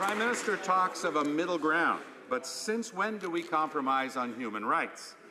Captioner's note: some Applause